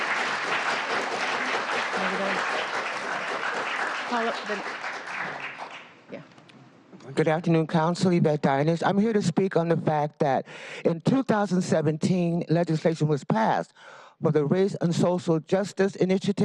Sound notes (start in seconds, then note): 3.0 applause